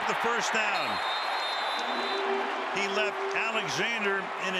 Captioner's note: whistle